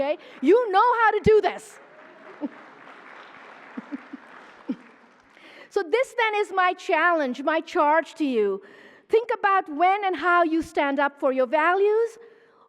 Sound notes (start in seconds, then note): 2.2 applause